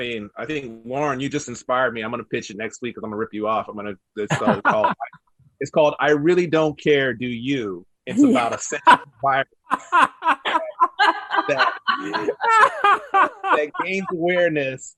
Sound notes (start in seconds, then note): 4.2 panelist laughs; 9.7 panelists laughs